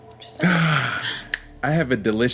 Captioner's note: exhaling